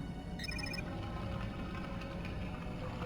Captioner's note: beeping